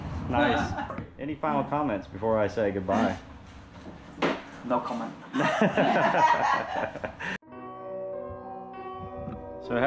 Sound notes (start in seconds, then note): 5.3 laughing; 7.4 eerie piano music